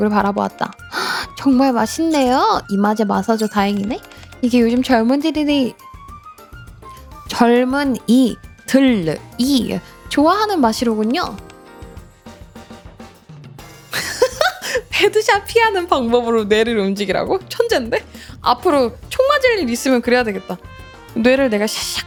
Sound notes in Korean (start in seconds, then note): 13.9 웃음